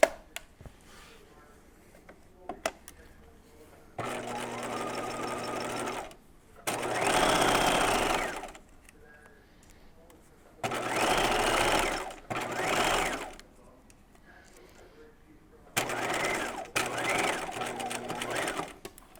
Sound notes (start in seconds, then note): 4.4 sewing machine whirring